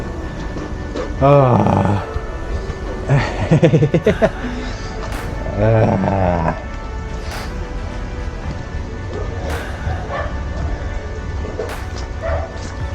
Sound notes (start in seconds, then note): 3.0 laughing